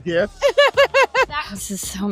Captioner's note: laughs